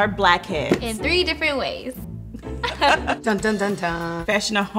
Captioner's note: laughing